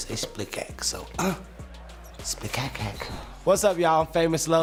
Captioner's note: grunts